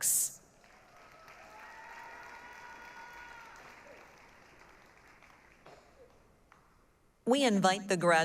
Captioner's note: applause, cheering